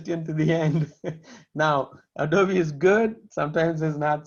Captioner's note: laughter